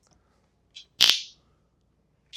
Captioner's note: zap